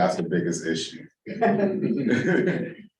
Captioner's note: laughter